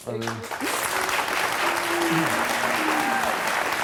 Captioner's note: audience clapping